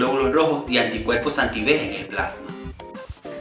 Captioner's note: none